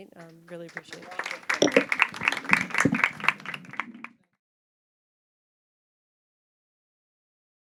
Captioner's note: audience applauding